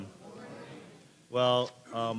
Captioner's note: crowd